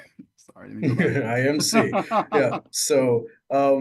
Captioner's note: both laughing